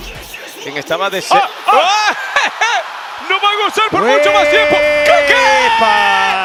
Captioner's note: laugh